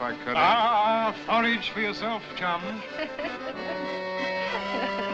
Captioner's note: laughing